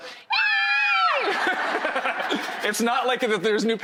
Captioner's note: both squeals